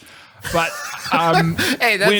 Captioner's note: laughs